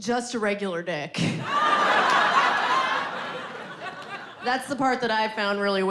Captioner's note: audience laughing